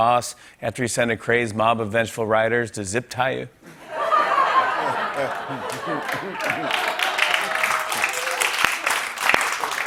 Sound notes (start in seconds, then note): 3.6 laughter; 5.3 applause